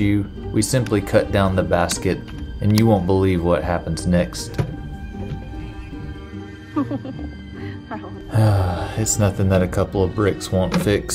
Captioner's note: sigh